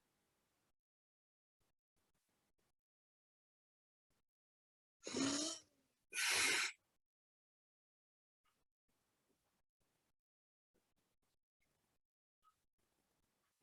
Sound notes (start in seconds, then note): 6.2 sigh